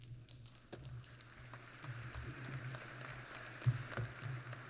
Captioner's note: applause